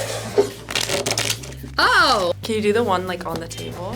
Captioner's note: cards riffling